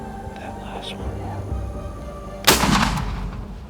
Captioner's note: whispering